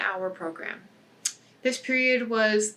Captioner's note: tongue clicks